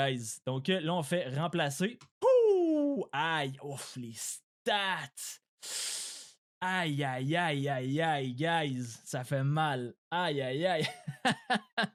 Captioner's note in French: rires